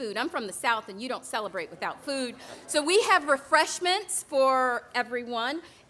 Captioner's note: none